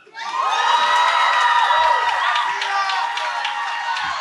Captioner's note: cheering